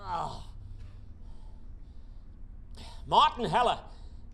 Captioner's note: painfully grunting